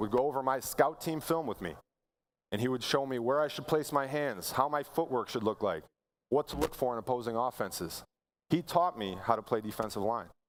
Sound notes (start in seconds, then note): none